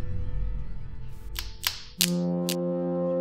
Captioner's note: branches snapping